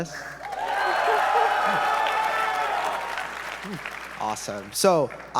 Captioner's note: audience members cheering